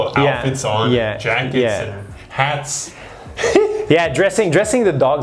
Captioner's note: chuckling